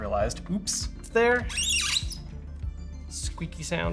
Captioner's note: games console squeaks